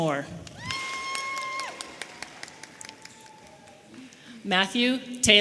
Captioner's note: audience member cheering